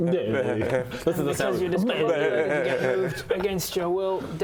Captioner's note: bleerghhhhh